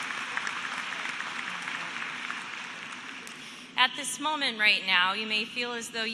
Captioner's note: applause